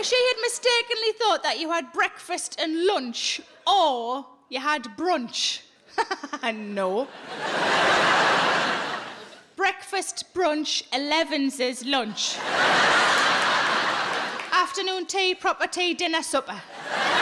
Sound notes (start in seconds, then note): 5.8 laughs; 7.0 audience laughs; 12.1 audience laughs